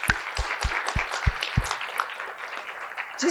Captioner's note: applause